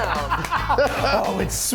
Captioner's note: men laughing